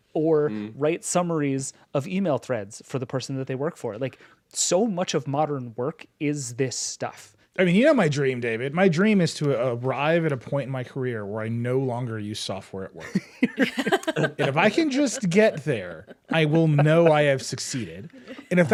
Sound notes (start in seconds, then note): 13.0 group laughs